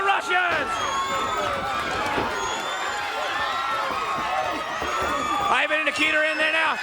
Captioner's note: crowd cheering